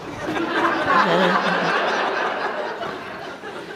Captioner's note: audience laughs